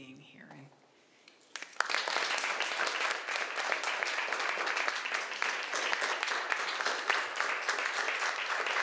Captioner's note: clapping